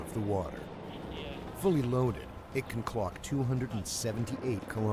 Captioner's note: voiceover